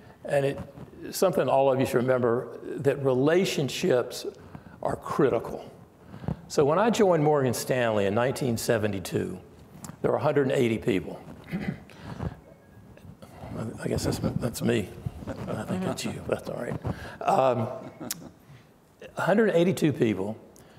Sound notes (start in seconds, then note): 12.0 phone dings; 17.3 laughing